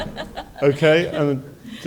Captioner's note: laughter